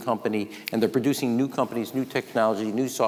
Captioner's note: snaps